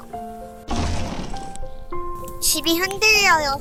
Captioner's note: boom—!